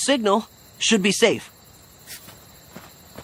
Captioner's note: rustling